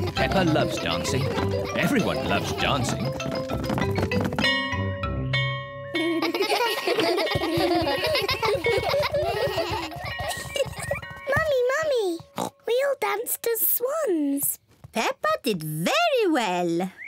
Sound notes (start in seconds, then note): 4.5 bell ringing; 5.9 kids laughing; 12.3 oinks